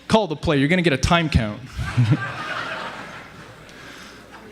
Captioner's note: laughing